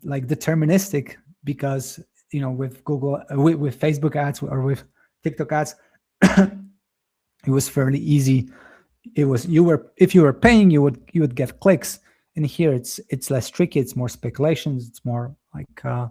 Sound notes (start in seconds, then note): 6.2 coughs